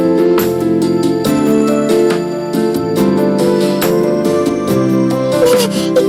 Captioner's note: screaming